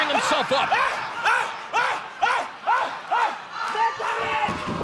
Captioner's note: shouting